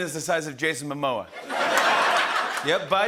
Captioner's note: laughter and applause